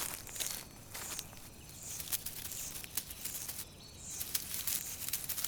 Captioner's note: crunching